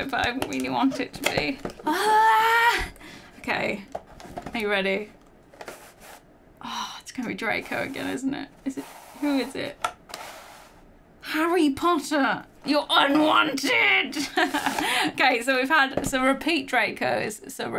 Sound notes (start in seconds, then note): 1.9 exclaims